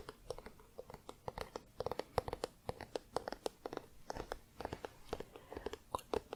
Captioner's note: tapping on spine